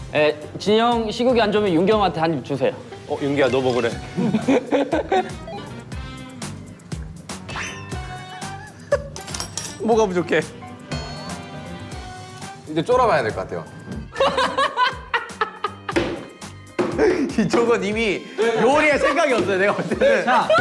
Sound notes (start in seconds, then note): 7.2 spitting again